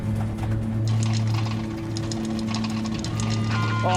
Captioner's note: rattling